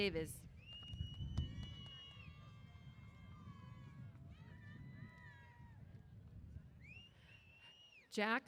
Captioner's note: cheers